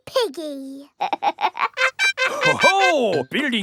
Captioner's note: snorts; laughs